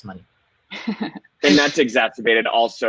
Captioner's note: laughing